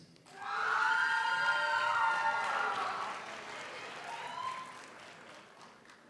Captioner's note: audience cheers; audience applauds